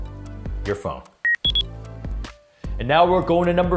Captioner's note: electronic beep